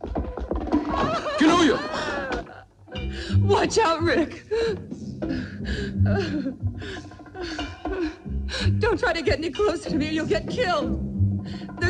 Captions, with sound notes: Kinojo! (whimpering) Watch out, Rick! Don't try to get any closer to me, you'll get killed.